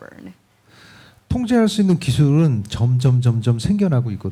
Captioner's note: speaking korean